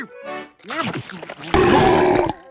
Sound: chewing; burping

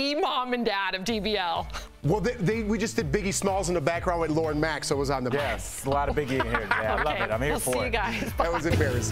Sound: laughter

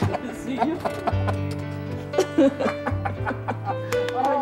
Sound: laughter

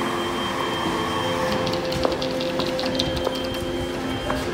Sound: door sliding; heal clanking

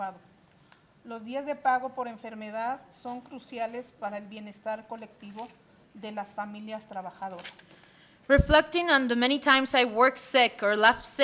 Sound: reading in spanish

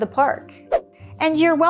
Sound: whip through air

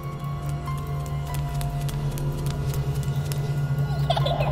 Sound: footsteps pattering; child laughing

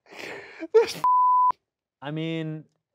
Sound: beep

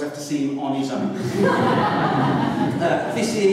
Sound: laughter

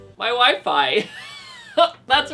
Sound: laughs

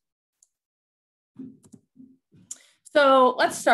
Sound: mouse clicking

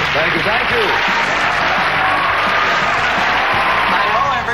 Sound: audience applauding

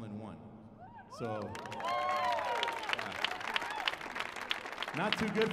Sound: audience applauding

